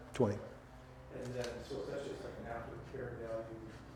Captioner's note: man speaking off mic